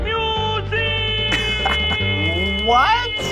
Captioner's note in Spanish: riendo